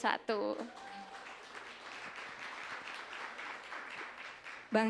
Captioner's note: applause